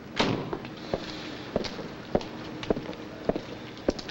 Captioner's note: car door slams